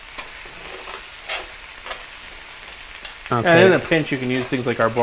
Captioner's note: sizzling